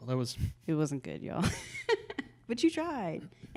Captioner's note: laughs